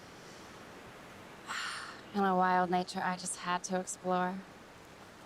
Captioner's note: sighs